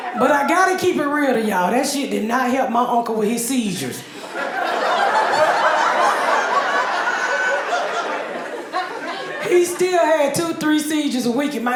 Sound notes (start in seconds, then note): 4.0 audience laughing